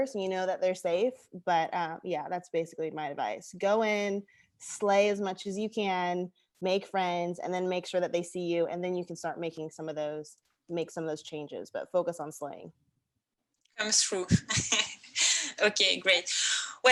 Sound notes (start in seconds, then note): 14.3 laughs